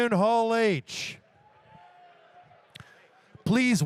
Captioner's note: audience cheers